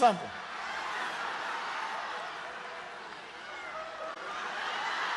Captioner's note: crowd cheering